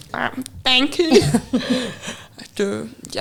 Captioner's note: chuckling